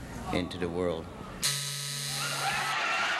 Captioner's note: buzzer; audience applauding